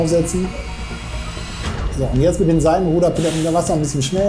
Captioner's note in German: Überforderter Laut